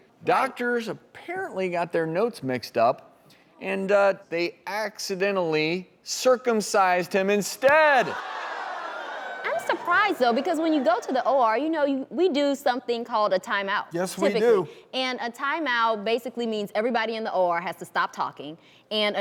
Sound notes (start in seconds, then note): 8.3 audience oohs